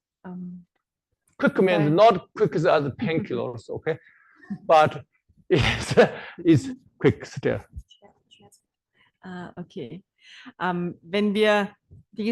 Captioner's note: German live translation